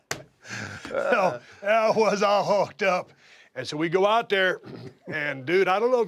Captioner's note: laugh